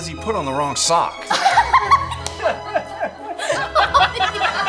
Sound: couple laughing

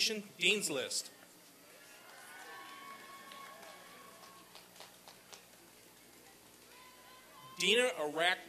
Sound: applause and cheering

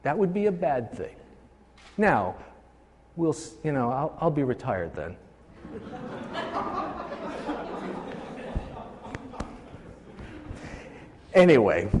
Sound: laughing

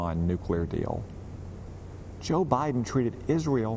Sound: none

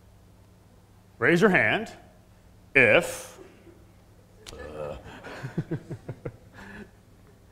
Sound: laugh

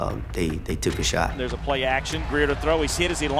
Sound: voiceover

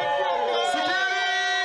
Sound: cheering

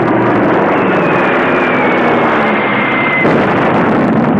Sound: bomb whistling

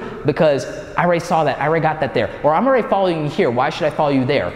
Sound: none

